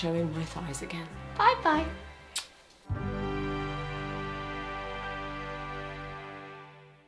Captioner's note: kisses